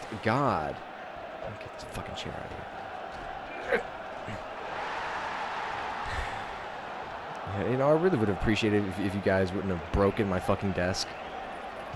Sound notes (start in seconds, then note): 6.0 sigh